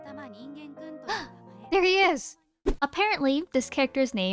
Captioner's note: gasp